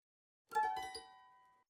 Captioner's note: chime